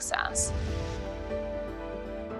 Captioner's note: swoosh